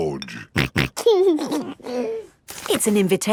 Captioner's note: snorting and giggling